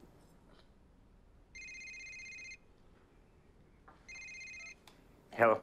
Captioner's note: cell phone ringing